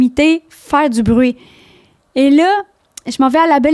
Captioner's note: in french